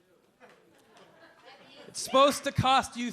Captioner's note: a few audience members murmuring